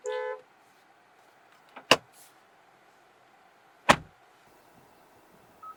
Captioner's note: door Thud